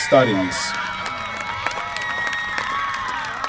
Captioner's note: applause